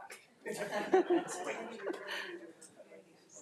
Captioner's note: all laughing